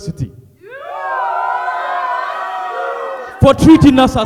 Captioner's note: audience cheers